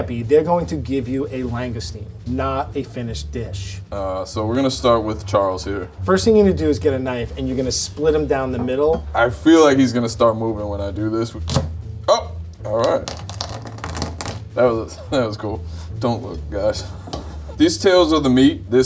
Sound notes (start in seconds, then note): 12.8 knife crunches through shell